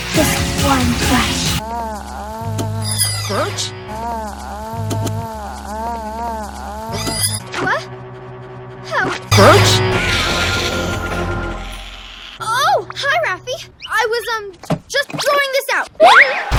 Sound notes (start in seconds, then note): 1.6 moaning; 3.8 moaning continues; 9.9 demonic hissing